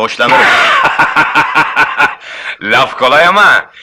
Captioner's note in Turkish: Kahkahalar